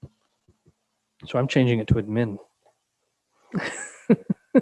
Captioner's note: laughing